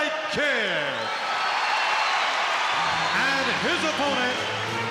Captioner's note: crowd cheers